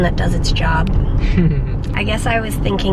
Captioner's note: chuckles